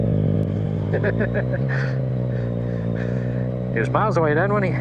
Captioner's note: laughing